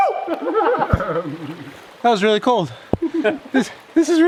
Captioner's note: men laughing